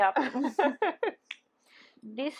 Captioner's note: laughing